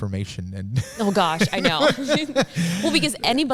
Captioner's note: all laughing